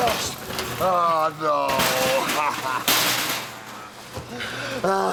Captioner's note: sobs